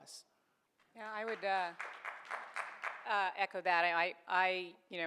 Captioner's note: audience applauds